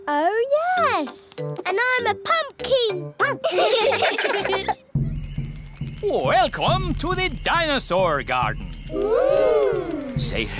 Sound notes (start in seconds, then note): 3.4 all giggling; 3.6 barks